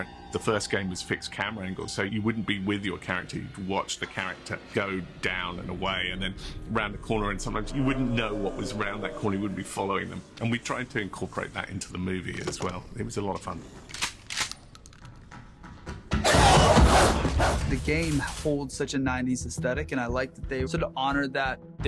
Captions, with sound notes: The first game was fixed camera angles, so you wouldn't be with your character. You'd watch the character go down and away and then around a corner. Sometimes you wouldn't know what was around that corner. You wouldn't be following them. And we tried to incorporate that into the movie as well. It was a lot of fun. - [gun cocks] - [footsteps] [growling] The game holds such a '90s aesthetic and I liked that they honored that.